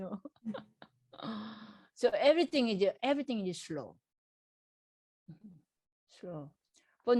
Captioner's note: laughs